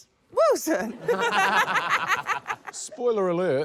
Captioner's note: laughter; chuckles